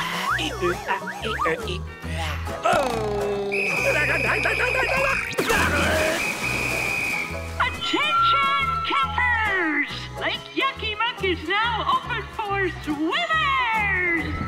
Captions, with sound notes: [grunting] [whistle blowing] Attention, campers! Lake Yucky Muck is now open for swimmers.